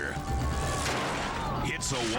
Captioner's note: people exclaiming; biker thuds